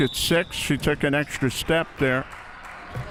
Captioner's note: whistle chirping